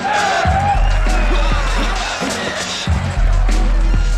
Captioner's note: crowd cheers; thumping hip hop beat